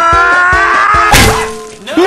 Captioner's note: oof